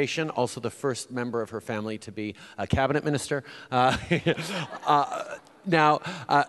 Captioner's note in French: Rires